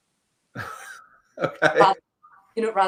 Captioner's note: laughs